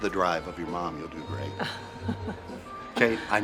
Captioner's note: Kate chuckles